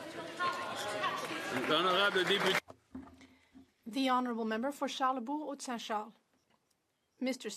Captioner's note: speaking French